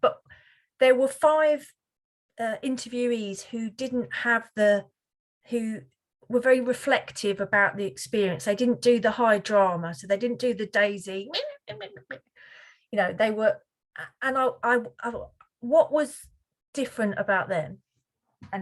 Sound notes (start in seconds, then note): 12.7 imitates Daisy